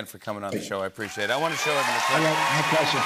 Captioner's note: cheers and applause